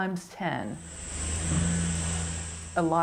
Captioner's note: car engine roaring